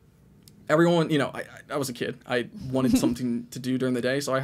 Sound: chuckles

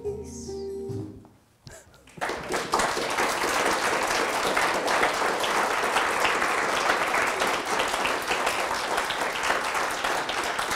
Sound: audience applause

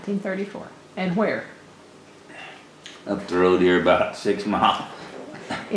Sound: laughs

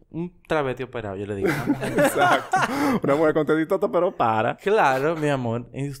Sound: laughs

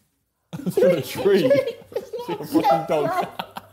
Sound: chuckling

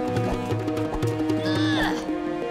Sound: grunting

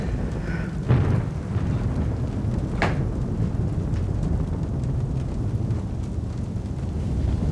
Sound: thunder crashing

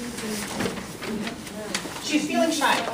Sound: student answers quietly

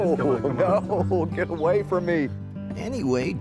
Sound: laughing

